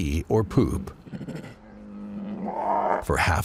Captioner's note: bears growl